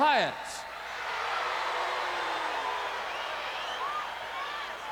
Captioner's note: crowd boos